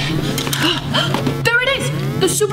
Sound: detector alarm sounding

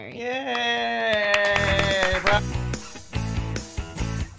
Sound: applauding; upbeat music playing

